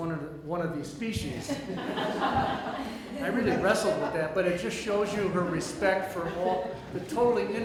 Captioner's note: audience laughter